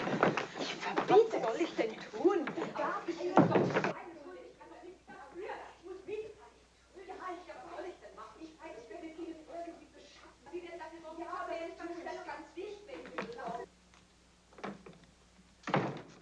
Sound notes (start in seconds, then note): 3.5 arguing in foreign language